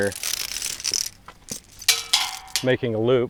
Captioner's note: chain clanking